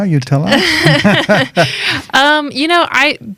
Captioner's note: laughter